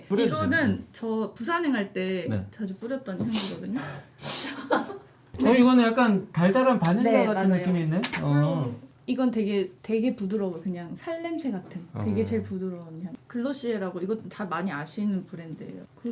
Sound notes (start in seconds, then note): 4.2 sniffing